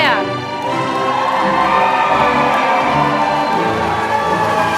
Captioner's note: applause